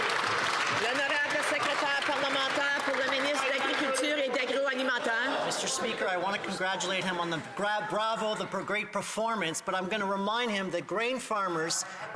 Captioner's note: some Applause